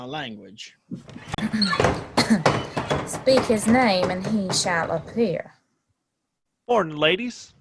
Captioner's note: scoffing